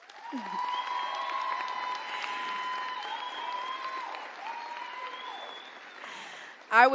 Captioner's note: applause